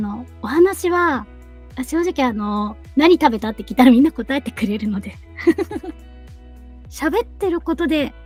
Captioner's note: laughs